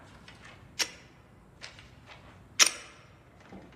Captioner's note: gun clicking